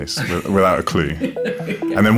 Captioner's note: laughs